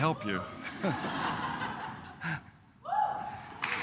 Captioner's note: laughs